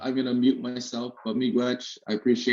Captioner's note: speaking in a indigenous language